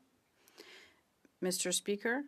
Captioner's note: speaking French